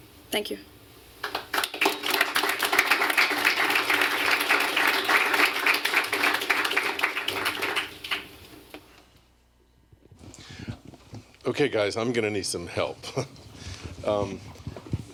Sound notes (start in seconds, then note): 1.2 applause